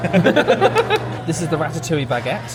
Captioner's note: men laugh